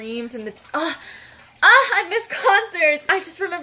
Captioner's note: cries a little